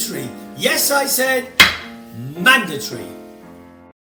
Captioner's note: gavel bangs